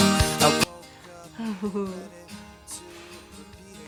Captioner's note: laughs